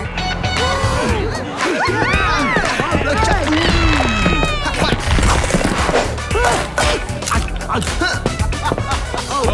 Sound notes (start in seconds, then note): 0.1 indistinct chatter; 1.1 party music playing; 6.2 grunting